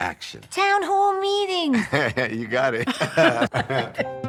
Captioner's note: laughter; chuckles